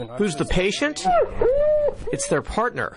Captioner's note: dog crying